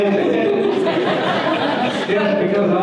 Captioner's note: audience laughter